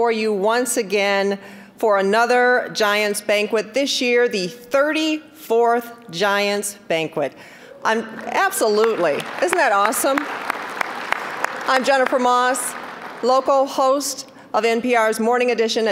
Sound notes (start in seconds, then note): 10.8 applause